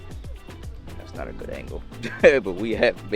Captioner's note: chuckles